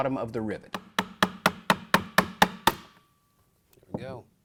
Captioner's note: tapping